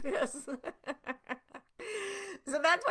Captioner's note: laughing